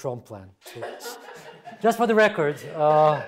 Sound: audience laughing

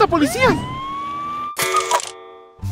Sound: police siren wailing

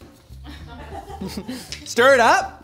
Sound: laughing

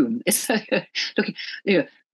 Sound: laughs

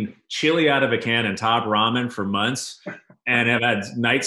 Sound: laughs

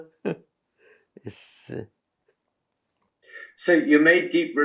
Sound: laughs

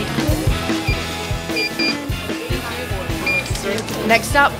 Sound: beeping

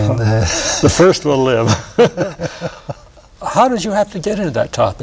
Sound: laughter

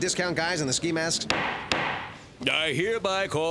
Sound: gavel pounds

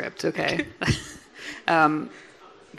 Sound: laughing

